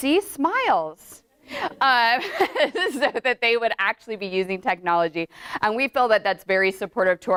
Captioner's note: laughter in audience